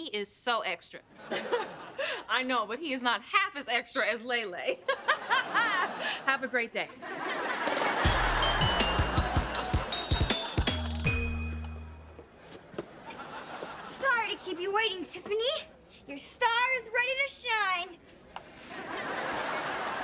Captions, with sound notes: He is so extra. - I know, but he is not half as extra as Lay Lay. [laughs] Have a great day. [upbeat music] - Sorry to keep you waiting, Tiffany, but your star is ready to shine.